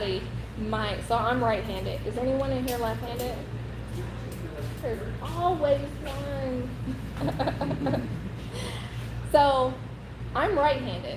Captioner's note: laughing